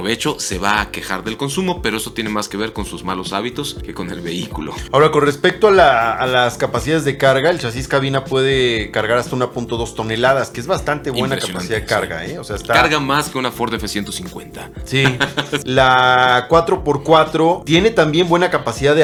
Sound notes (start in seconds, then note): 15.0 laughter